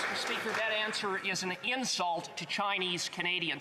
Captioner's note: some Applause